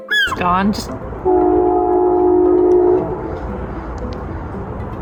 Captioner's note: loud train horn